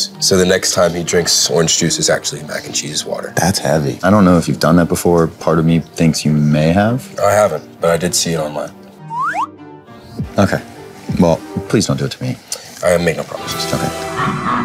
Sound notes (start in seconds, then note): 9.1 sliding whistle